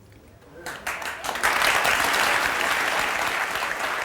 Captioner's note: clapping